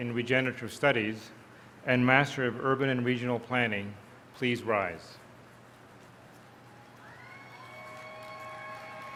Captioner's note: cheers